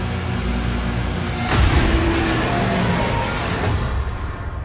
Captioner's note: demonic roaring